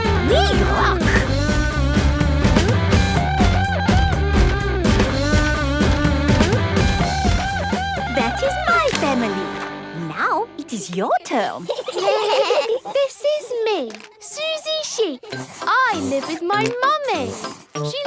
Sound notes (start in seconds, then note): 1.9 upbeat rock music; 11.4 children giggling